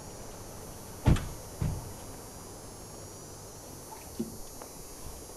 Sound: doors latching

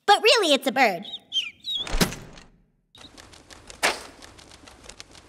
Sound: bird chirps; thuds

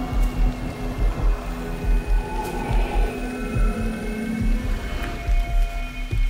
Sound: whines

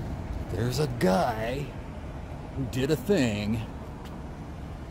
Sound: silly voice

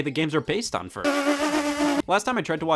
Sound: pffffft

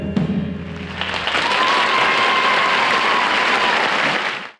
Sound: audience applauding

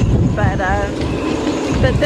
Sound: wind howling

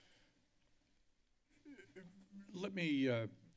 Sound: silence

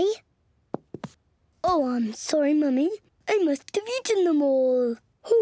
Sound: in deep voice

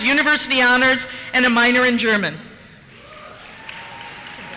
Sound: cheers

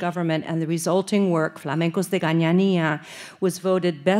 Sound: speaking Spanish

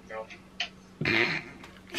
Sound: giggles

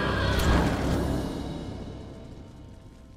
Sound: fwoosh

